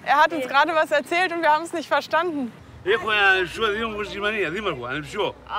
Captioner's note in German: Er spricht griechisch